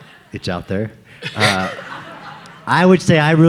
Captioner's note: audience laughing